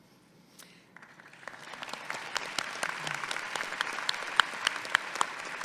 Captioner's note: audience clapping